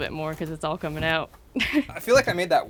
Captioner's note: chuckles